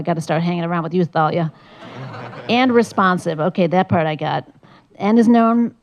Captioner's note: laugh